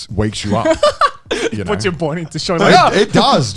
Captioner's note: laughs